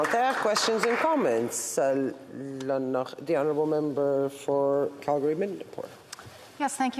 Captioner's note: applause